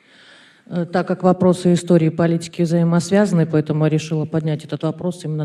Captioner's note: in Russian